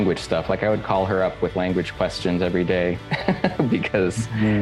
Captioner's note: chuckles